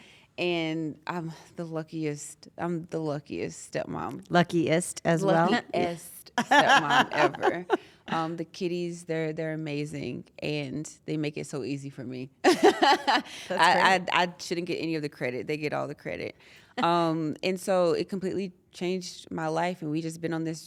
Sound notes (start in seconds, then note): 6.4 laugh; 12.2 laugh